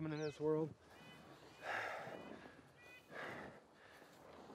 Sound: birds chirping

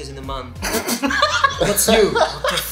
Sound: people laughing

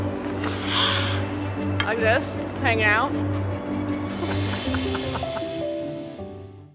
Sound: laughs

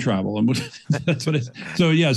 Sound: both laughing

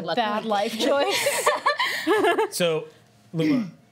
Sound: laughter

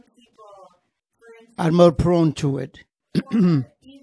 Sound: clears throat

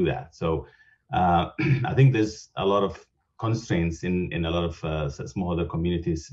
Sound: cough

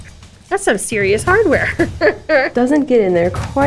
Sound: laughs

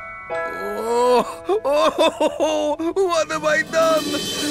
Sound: crying

